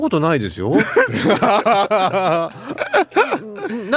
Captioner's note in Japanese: 笑い